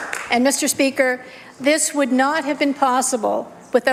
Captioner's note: applause